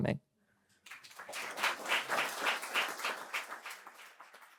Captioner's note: applause